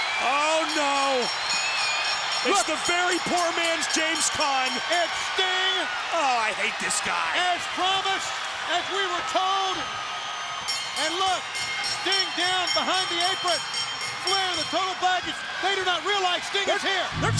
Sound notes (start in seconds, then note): 0.9 crowd cheering; 5.5 crowd cheering; 10.7 bell ringing